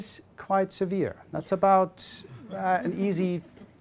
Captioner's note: audience laughing